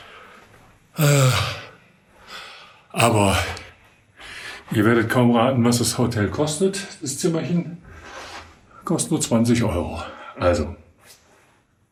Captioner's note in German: seufzt